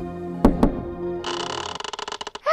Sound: door knock; door creaks open

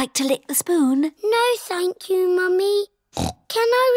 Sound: snorts

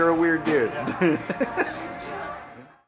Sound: laughs

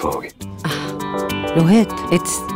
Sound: exhales

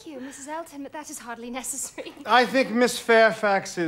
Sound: laughs

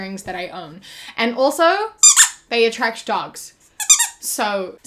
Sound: squeak

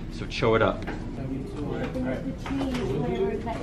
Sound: students murmuring

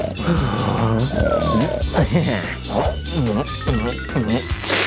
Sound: snoring

